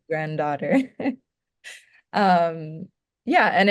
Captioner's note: laughing